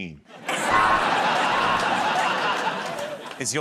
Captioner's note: laughter